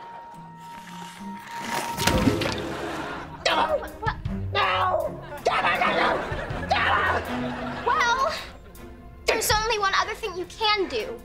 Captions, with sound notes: - Doh! - W-W-- No! [screaming] Well... there's only one other thing you can do.